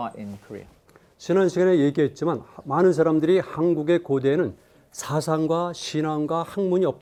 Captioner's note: speaking in Korean